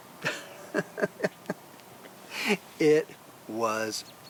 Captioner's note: chuckles